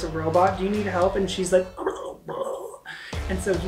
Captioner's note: guggles